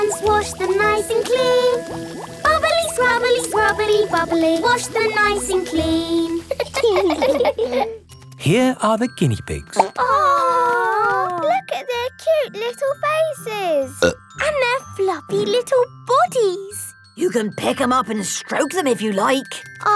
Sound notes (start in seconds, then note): 6.4 laughing; 9.7 plop